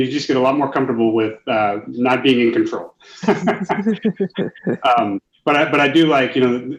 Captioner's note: laughs